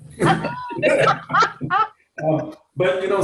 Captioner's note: laughs